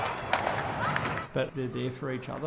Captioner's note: children talking And skateboards rolling